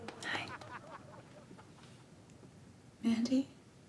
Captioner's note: laughs